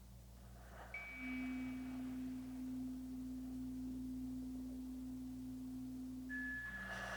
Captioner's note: chimes ringing continues; slow breathing continues